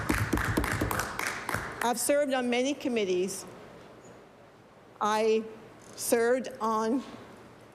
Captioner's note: applause